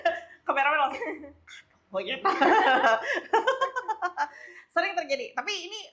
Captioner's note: laughs